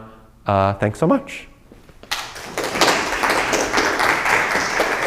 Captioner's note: applause